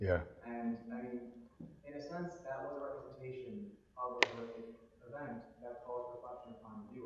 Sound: audience member talking in the background

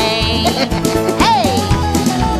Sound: Chuck E. giggles

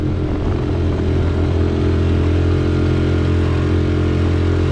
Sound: motor revving

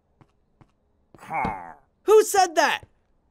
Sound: mob grunting

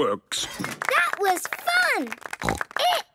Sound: applause

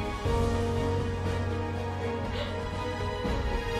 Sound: crying

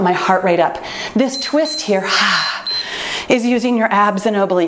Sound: timer beeps

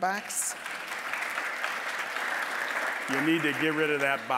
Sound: applause

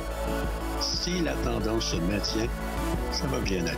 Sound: speaking French

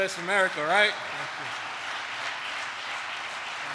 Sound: applause

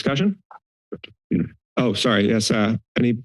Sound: silence

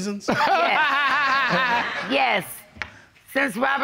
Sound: laughs

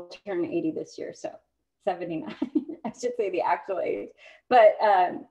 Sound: laughter

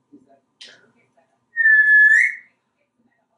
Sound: whistling

